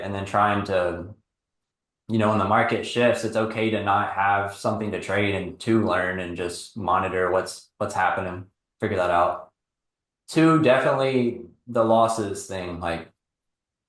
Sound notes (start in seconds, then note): none